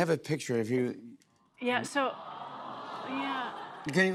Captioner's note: audience "Awws"